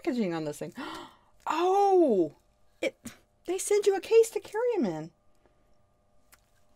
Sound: gasps

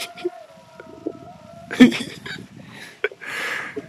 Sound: laughing

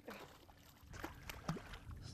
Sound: splashing

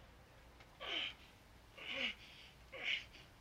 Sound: grunting

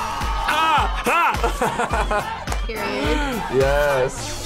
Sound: laughs

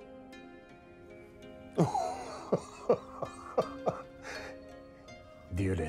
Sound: laughs

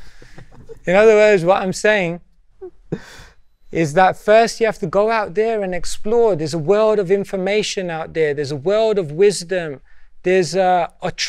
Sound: laughter

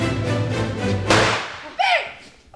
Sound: gunshots

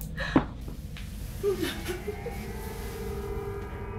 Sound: sobbing

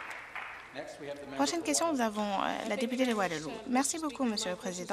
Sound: applause

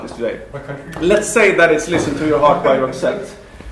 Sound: laughter

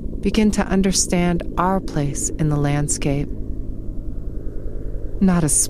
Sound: helicopter chops near and far

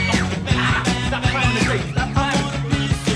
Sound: Dylan screams

